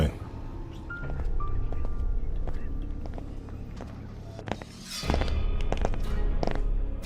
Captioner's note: suspenseful music; footsteps fall